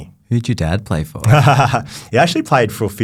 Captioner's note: laughs